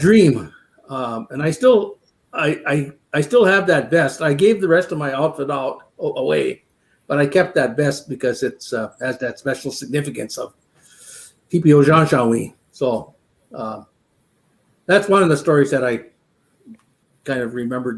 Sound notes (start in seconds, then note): 12.0 speaking Dakota